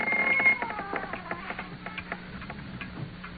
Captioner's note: door closing